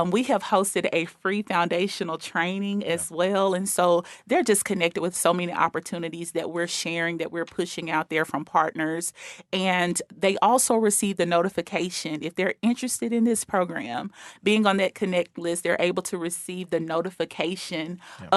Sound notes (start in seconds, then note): none